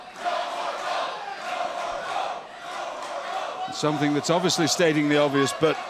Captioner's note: crowd cheering